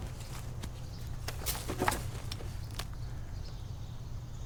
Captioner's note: rustling branches